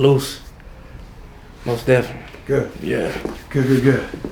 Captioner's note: laughing